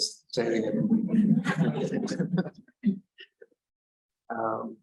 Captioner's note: laughter